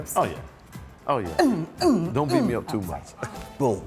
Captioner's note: grunts